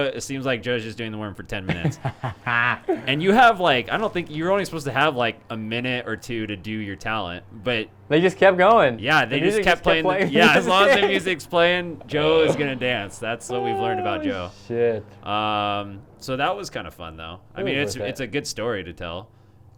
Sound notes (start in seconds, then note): 1.6 laughs